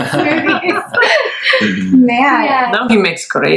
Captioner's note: laughs